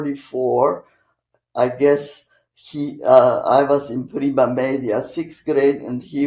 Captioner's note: italian